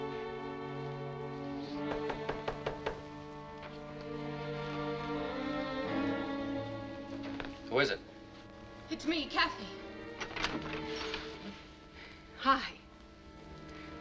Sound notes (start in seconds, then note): 1.8 knocking